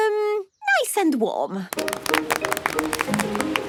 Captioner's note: applause